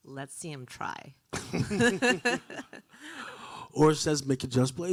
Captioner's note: both laughing